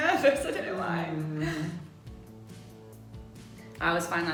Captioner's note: chuckles